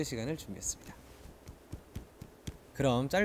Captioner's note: clap